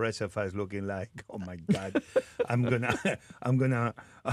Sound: Martha laughs

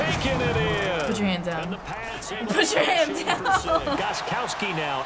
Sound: laughs

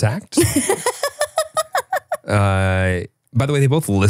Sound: laughing

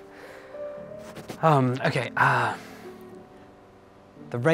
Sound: exhales

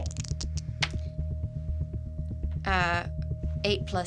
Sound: dice clatters

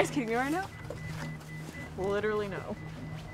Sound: camera beeping

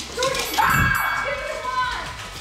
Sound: bell chime; excited chatter

